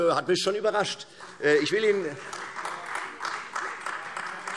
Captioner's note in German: Beifall